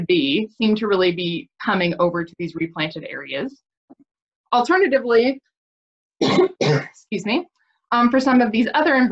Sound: coughs

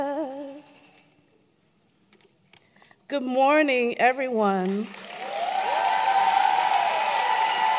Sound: tambourine; applause

